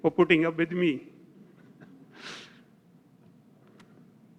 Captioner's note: laugh